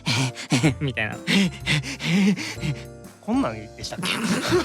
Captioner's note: pant